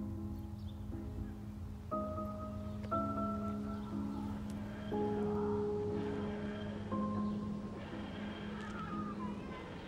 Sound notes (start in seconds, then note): 4.2 TARDIS dematerialising